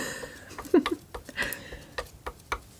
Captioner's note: laughs